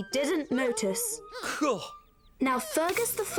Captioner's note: scoffs